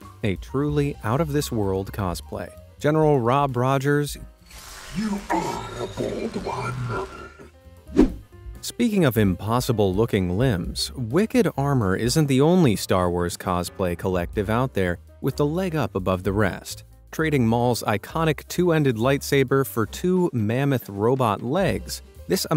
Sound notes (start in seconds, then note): 7.8 air whooshing